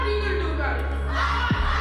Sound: kids yelling

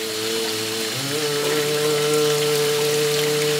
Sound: humming

